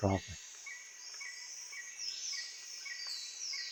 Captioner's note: nature sounding